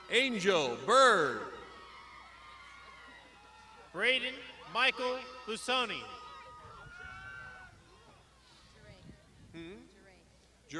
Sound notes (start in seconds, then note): 1.0 crowd shouting